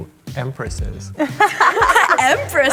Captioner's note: all laughing